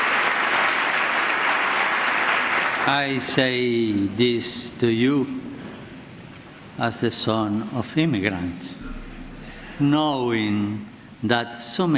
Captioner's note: applause